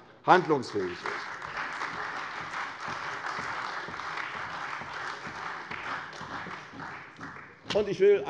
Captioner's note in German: Beifall bei der CDU und dem BÜNDNIS 90/DIE GRÜNEN